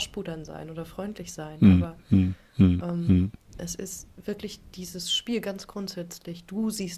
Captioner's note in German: räuspern